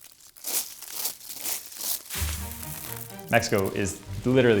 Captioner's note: corn whirring